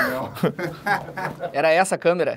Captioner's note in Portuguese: risadas